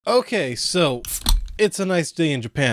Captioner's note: bottle opening sound